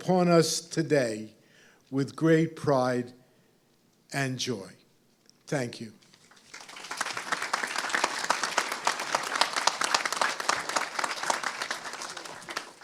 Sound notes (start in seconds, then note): 6.1 applause